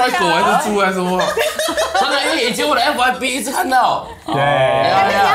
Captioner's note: laughs